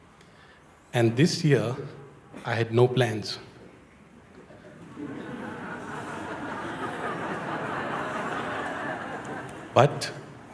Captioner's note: Lachen